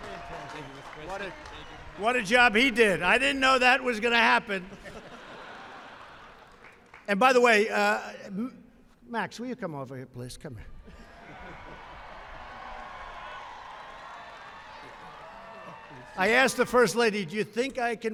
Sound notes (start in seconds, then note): 4.5 laughter; 11.0 applause